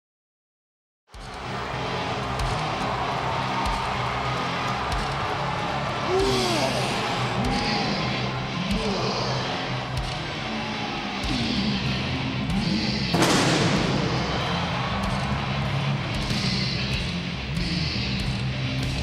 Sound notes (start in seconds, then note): 1.1 audience cheering; 1.2 upbeat music